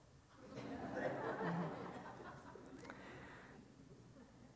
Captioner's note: audience laughs